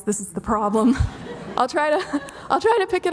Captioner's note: audience laughing